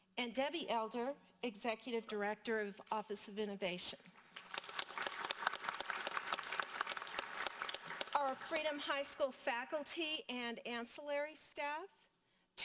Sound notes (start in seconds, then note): 4.2 audience applauding